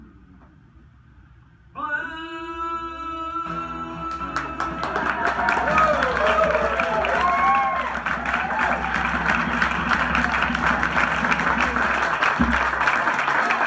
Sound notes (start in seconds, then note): 6.5 crowd claps and cheers